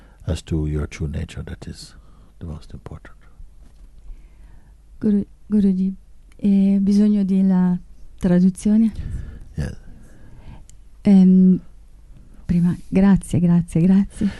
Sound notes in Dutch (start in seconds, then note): 6.1 Vraagsteller spreekt Italiaans